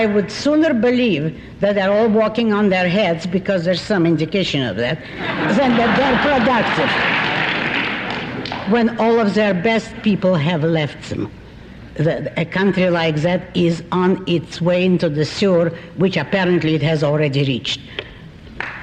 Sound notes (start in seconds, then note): 5.1 laughter